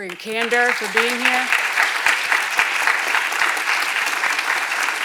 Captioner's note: audience applauds